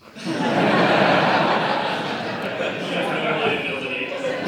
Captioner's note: audience laughing